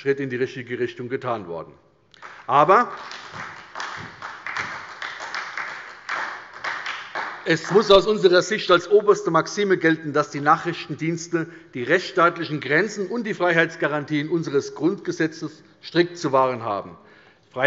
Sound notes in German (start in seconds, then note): 2.1 Beifall bei der SPD